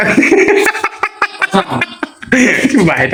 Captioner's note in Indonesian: tertawa